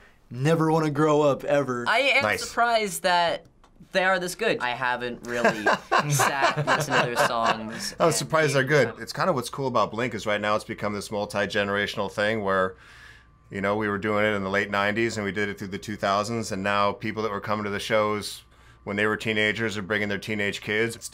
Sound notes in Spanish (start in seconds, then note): 5.3 ambos se ríen